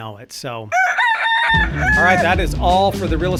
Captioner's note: cock crows